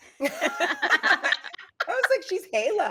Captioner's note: laughs